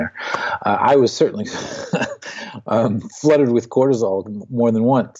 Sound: laughs

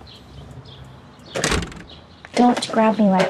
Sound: door shuts

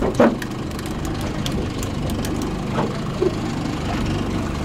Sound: reel ticking

